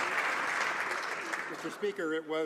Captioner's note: some Applause